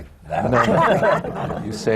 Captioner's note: laughter